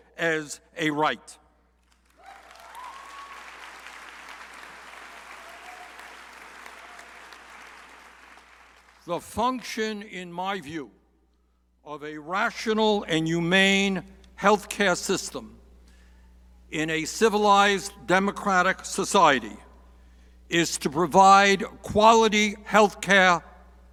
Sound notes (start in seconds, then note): 1.8 crowd applauding